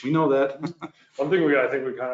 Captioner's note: laughs